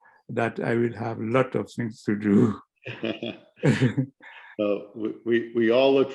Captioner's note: laughter